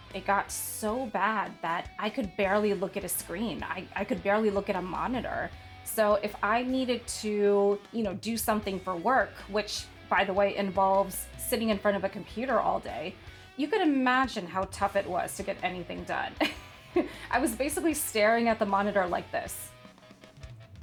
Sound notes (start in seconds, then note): 16.3 laughs